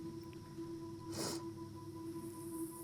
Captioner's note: sniffling